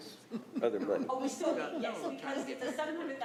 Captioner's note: laughing